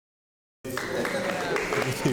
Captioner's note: applause